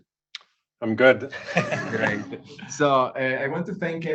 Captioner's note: laughs